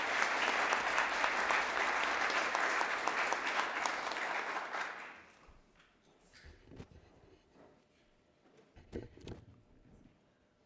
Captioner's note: applause